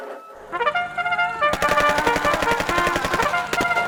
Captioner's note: shouting, gunfire